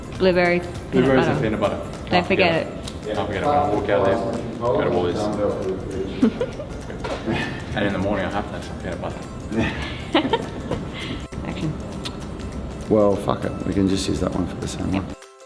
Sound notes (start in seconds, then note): 6.0 woman laughs; 9.5 woman laughs